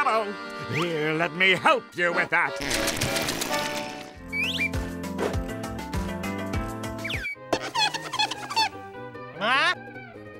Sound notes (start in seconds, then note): 7.6 squeaking